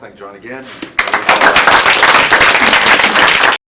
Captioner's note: applause